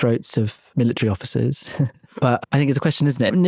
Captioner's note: chuckles